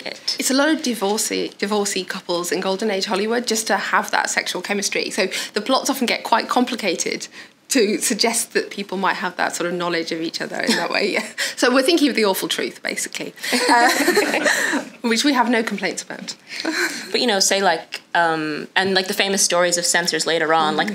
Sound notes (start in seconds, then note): 13.4 they laugh